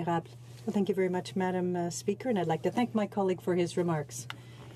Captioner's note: speaking in french